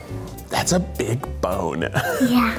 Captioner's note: laughs